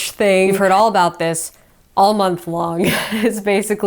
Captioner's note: chuckles